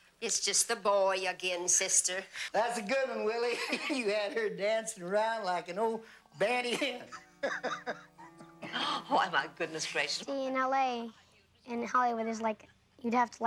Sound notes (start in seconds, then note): 2.7 laughs; 6.5 laughs